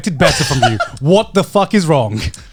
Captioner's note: Joey laughing